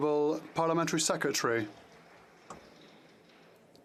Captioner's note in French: applaudissements